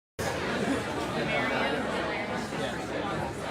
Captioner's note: crowd mumbling